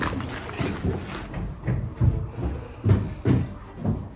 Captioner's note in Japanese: だんだん近づいてくる足音…